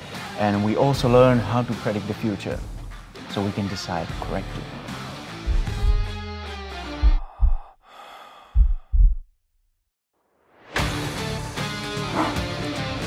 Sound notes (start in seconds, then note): 5.1 heartbeat